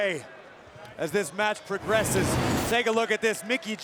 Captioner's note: whooshing sound plays